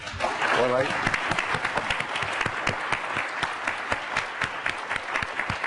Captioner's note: applause